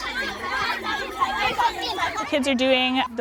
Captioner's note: children cheering